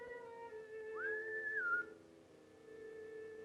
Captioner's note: whistles; slow violin music